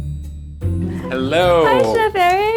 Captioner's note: gentle music; laughing